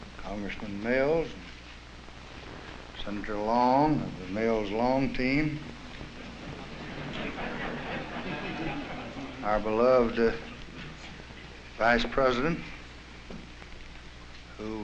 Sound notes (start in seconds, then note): 6.1 laughter